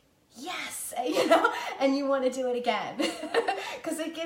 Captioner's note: laughing